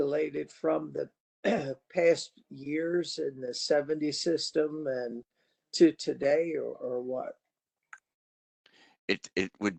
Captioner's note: cough